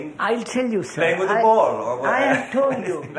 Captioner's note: laughs